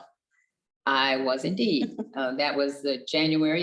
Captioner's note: chuckles